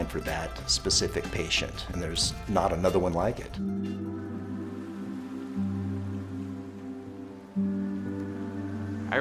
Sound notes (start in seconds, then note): 3.7 relaxing music; 3.9 waves splashing